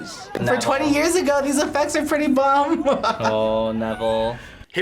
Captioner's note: laughs